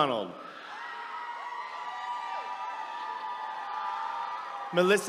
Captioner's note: attendees cheering